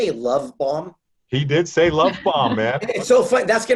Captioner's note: laughing